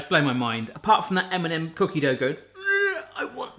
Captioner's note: grunts